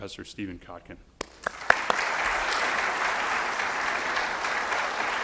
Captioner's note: audience applauds